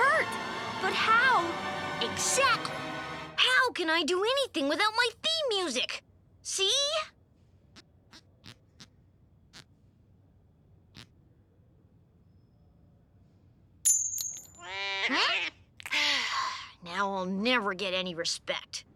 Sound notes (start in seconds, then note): 15.9 sighing